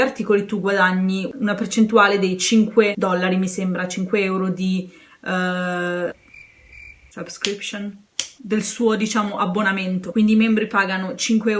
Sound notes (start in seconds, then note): 6.1 cricket sounds; 8.1 snapping fingers